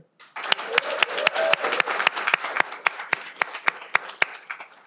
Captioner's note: audience applauding